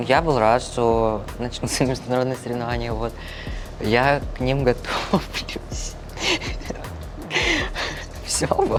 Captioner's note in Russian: смех; фыркает